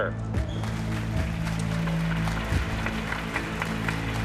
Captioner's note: audience applauding